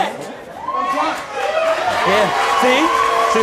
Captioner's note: audience cheers